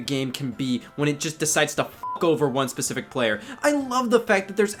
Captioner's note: beeps